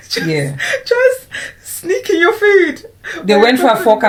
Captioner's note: laughs